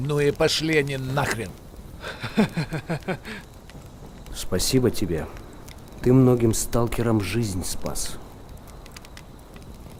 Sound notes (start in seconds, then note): 2.0 curly vitya chuckles